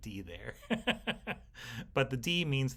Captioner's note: instructor laughing